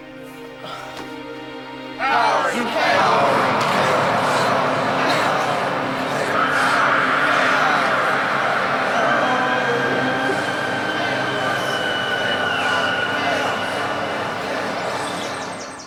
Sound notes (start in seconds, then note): 2.9 chanting